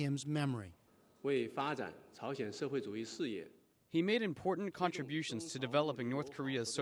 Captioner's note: through translator